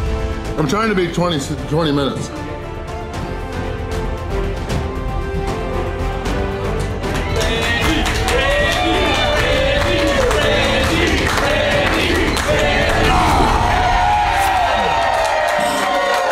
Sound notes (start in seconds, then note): 8.8 crowd; 14.8 crowd cheering